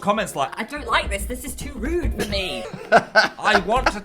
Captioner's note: laughs